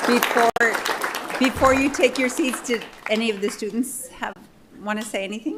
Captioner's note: applause